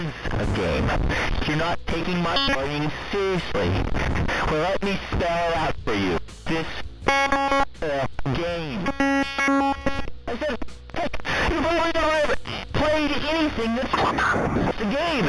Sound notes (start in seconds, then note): 3.1 glitching noise; 7.2 glitching noise; 15.0 glitching noise